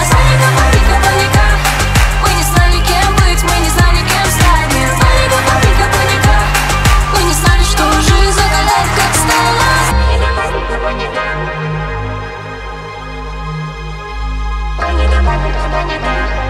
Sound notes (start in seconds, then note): 1.6 clap clap; 6.4 clap clap